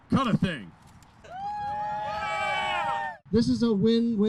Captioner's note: crowd cheering